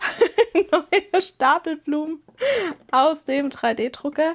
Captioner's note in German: gelächter